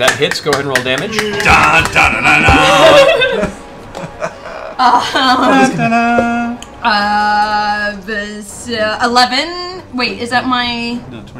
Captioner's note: laughs